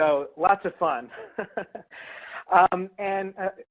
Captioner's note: laughs